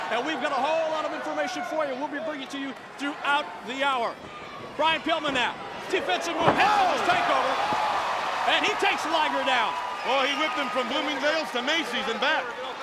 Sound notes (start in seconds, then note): 6.3 body thudding; 9.3 crowd cheering